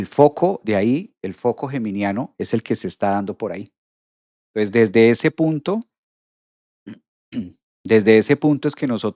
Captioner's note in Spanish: carraspeo